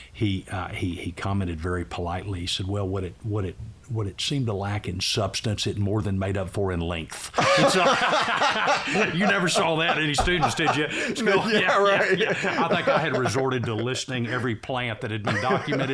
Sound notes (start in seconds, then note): 8.5 laughter